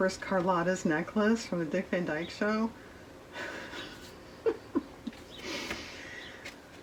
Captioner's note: laughs